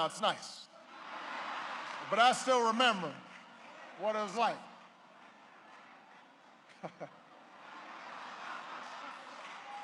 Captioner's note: laughter